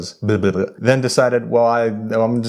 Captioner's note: sputtering